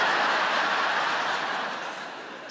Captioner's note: audience laughs